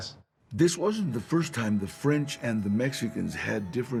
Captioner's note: in English